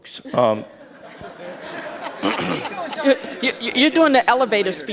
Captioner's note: audience laughs